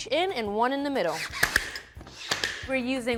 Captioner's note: nailer clicks